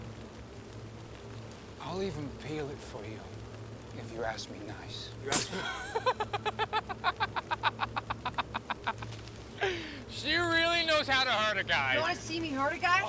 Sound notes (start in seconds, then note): 5.3 Mackenzie spits; 5.3 Noah laughs